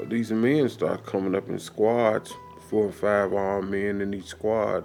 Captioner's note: water trickling